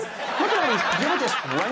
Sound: audience laughing

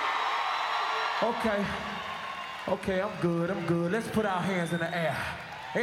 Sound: screams

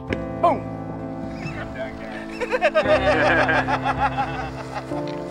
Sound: laughing

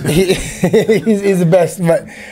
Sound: both laugh

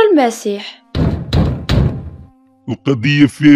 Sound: someone knocking door

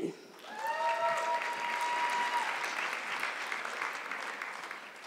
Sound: audience clapping

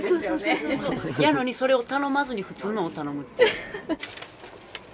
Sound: laughs

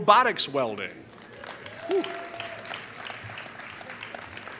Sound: applause

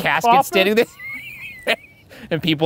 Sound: laughing

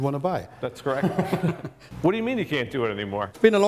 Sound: laughter

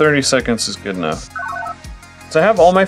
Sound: analog beeps

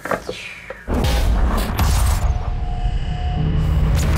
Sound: percussive rumbling

